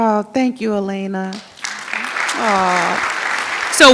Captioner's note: audience applauds